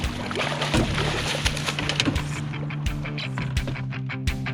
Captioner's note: fish splashing